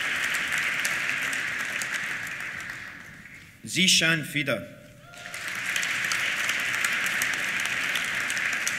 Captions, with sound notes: Zeeshan Fida. (CHEERS) (APPLAUSE)